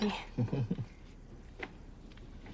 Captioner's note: chuckles